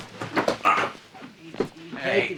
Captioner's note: grunts